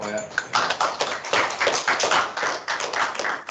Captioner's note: clapping